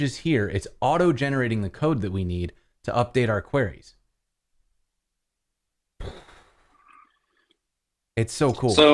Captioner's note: boom!